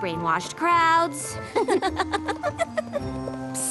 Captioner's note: giggles